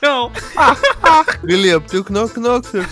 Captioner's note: laugh